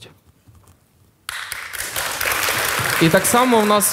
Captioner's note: the audience cheers